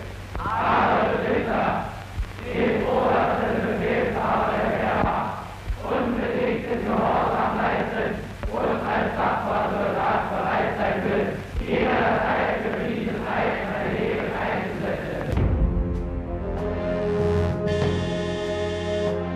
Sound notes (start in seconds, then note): 5.8 recruits continue speaking in foreign language; 15.3 ominous dramatic music